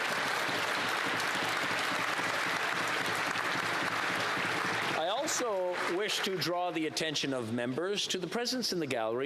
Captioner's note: applause